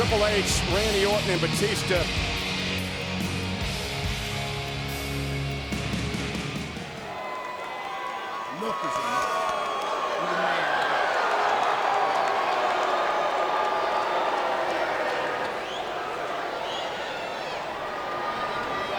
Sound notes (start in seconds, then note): 7.0 audience cheers